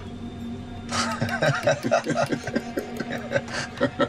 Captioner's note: pilots laughs